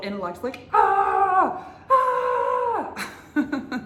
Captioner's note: yells; laughs